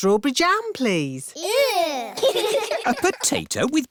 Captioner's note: giggling